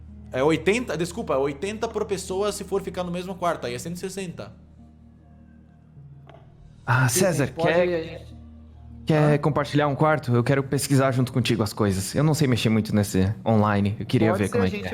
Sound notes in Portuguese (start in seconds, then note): 6.8 sussurra